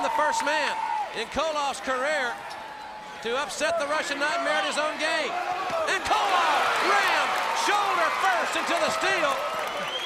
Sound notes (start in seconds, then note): 5.8 crowd cheering